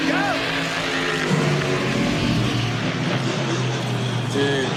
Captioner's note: engines revving